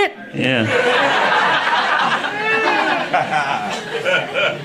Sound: audience laughing

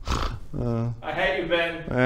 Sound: sigh

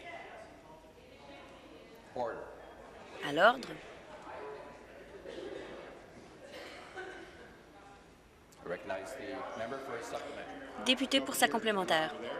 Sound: conversation din

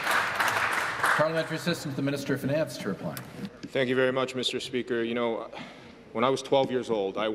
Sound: some Applause

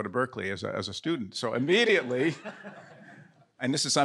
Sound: all laughing

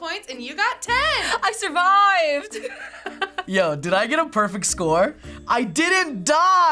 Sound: laughs

